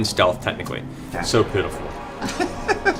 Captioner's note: sarcastically